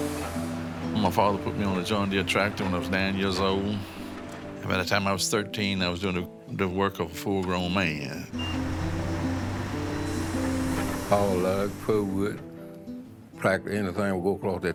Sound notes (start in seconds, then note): 8.3 machinery humming